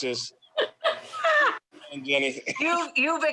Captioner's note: laughs